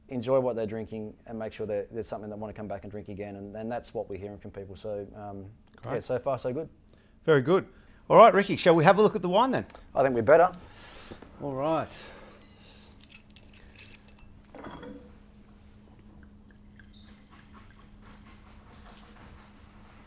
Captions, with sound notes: enjoy what they're drinking and make sure that that's something they want to come back and drink again. And that's what we're hearing from people. So, so far so good. - Very good. All right, Ricky, shall we have a look at the one then? - I think we're better. - All right. (bottle cap screeching) (wine sloshing)